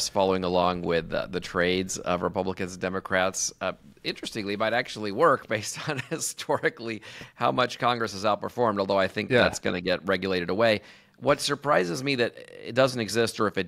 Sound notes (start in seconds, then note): 5.8 chuckles